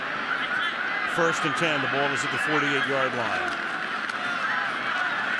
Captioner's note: cheering